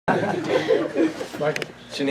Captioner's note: laughter